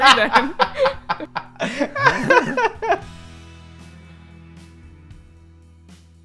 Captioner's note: laughter